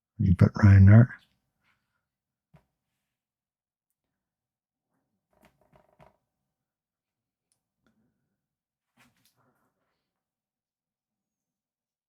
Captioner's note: silence